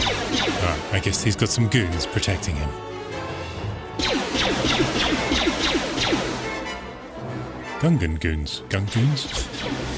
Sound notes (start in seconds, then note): 4.0 gunshots; 9.3 gunshots